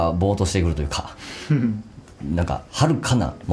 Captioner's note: laughs